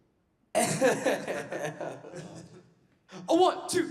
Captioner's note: laughing